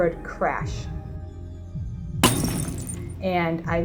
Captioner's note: crash, breaking glass sound